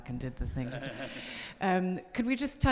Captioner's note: audience laughing